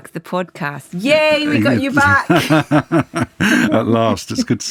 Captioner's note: laughs